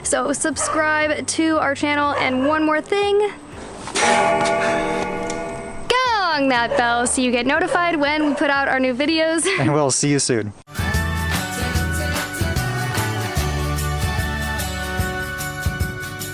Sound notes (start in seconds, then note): 3.9 bell gonging; 10.7 upbeat music playing